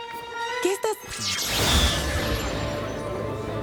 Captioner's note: zap